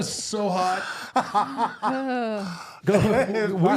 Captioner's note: R-Truth laughing